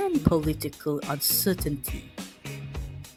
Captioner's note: none